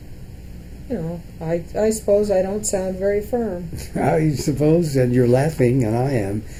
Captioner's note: laughs